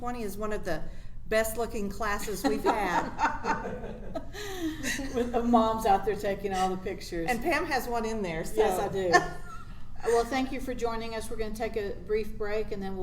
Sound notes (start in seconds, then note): 2.4 laughs; 8.8 laughs